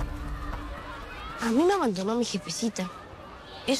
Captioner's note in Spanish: Voces de niños